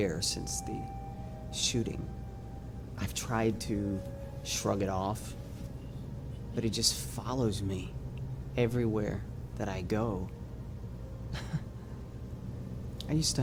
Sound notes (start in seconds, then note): 11.3 chuckles